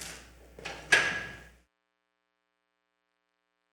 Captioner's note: gavel taps